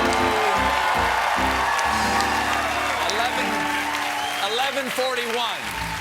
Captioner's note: cheers and applause